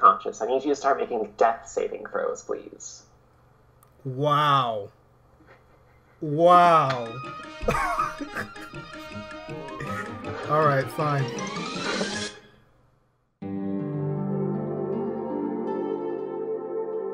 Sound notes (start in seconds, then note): 5.4 silently chuckling; 7.6 chuckles